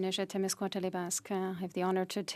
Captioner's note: speaking French